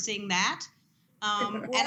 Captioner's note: laughter